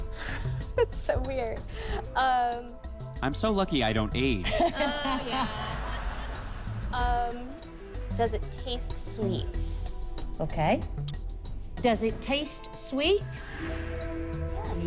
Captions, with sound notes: IT'S SO WEIRD. UM... - I'M SO LUCKY I DON'T AGE. - OH, YEAH. [laughter] UM, DOES IT TASTE SWEET? - OKAY. DOES IT TASTE SWEET? - YES.